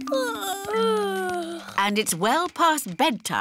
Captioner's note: yawning